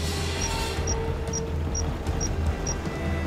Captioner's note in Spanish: Bips